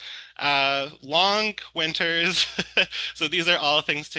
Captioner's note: laughs